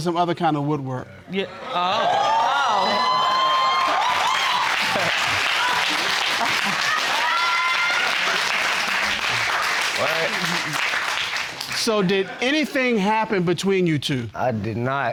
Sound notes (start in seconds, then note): 2.9 audience exclaiming; 4.3 audience applauding